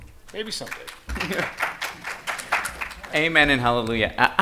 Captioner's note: attendees applauding